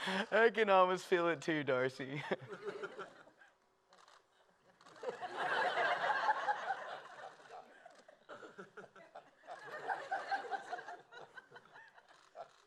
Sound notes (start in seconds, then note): 4.6 laughter